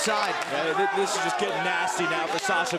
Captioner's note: crowd chatter